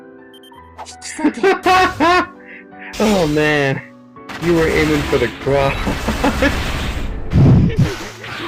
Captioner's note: laughs; laughs